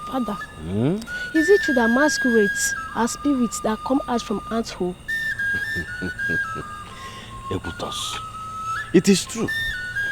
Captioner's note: screaming